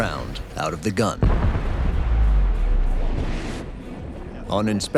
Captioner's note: round blasts